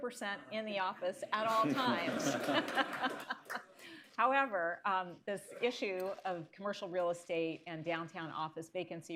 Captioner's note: laughter, applause